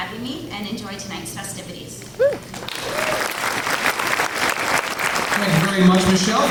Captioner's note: clapping